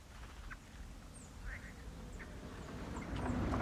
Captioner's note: car approaching